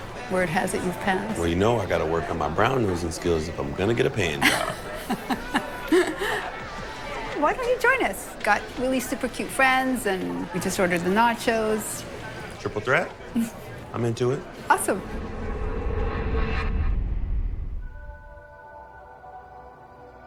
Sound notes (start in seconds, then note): 4.4 laughing; 14.8 metallic whirl; 18.1 sensual music